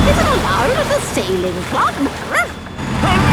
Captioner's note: barks